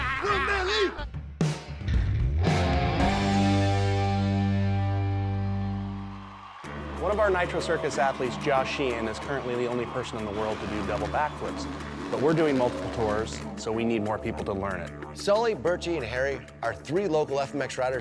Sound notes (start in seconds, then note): 2.5 rock music; 5.5 crowd cheering